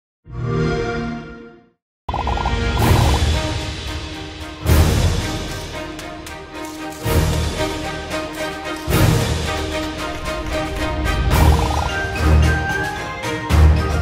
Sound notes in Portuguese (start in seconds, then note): 0.1 xbox sound